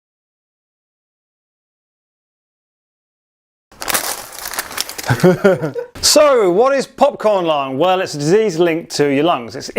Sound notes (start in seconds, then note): 3.7 popcorn falling; 5.0 laughing